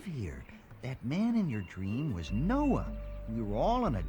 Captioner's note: le gasp